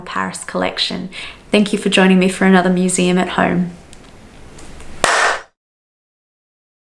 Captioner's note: clap